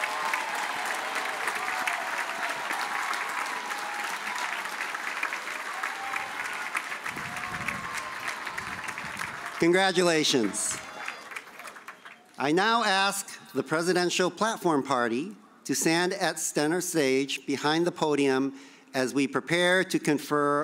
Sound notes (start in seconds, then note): 10.4 cheers and applause